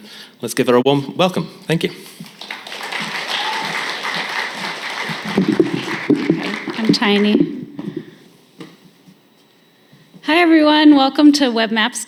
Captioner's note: applause and cheers